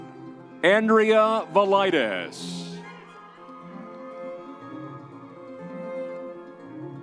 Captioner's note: crowd cheering